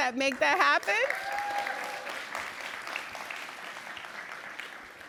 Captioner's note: cheers